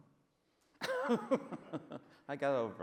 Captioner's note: laughs